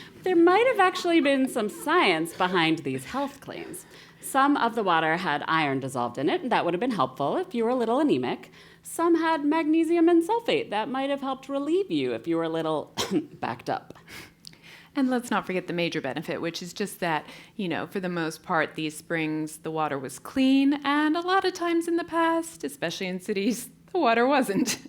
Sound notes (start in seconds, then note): 12.9 cough; 24.3 laugh